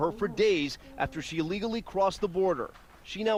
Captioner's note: speaking foreign language